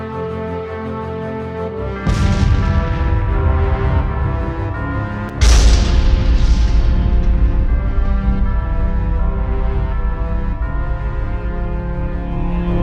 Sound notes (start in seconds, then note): 2.0 gunshots cracking; 8.5 intense music continues